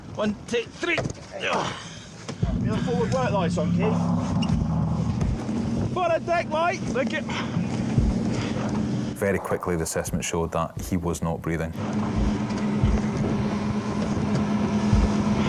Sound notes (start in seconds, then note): 1.3 rescuers grunting; 4.8 lifeboat engine whirring; 7.2 sighs; 7.9 lifeboat engine whirring; 11.0 lifeboat engine whirring